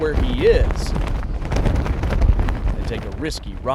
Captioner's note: wind whistling